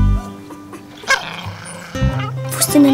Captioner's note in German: Knurren